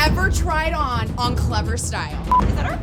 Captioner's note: electronic beeping